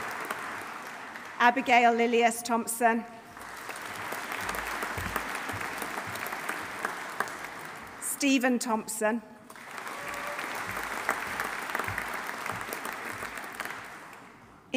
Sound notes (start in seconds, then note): 0.0 audience applauding; 0.0 audience cheering; 3.3 audience applauding; 3.9 audience cheering; 9.5 audience applauding; 9.6 audience cheering